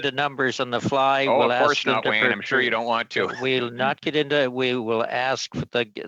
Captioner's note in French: voix de l'interprète